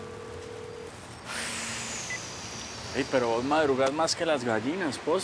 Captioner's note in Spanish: la otra línea timbra